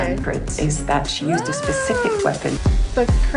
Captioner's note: weird scream of excitement